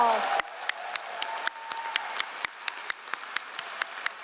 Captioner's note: all applauding